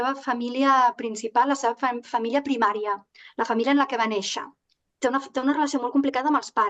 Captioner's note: continues speaking in Catalan